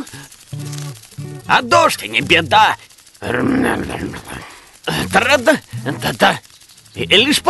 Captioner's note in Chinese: 哼唱小曲